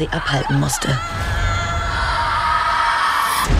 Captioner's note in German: Schreie